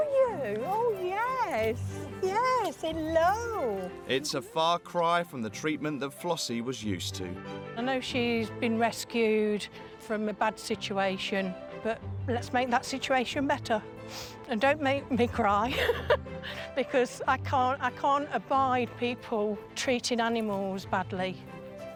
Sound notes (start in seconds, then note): 15.7 laughing